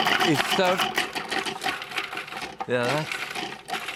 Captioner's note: loud chopping